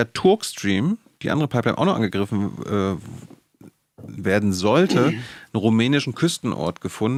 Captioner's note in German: räuspern